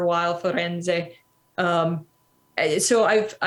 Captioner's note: italian